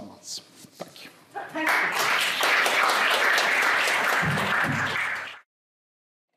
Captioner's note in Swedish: Applåder